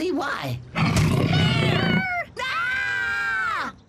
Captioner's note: low, deep growl